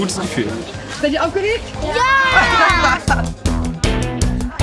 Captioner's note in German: lachen